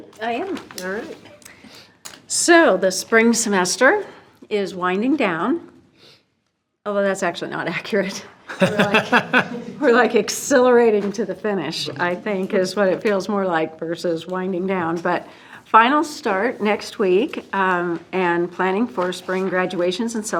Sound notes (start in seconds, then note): 8.5 trustee laughing; 8.5 group chuckles